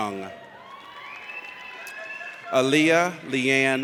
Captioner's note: audience cheers